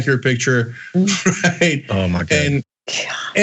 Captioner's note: laugh